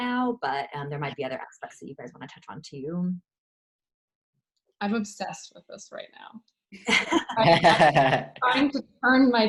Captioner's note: laughter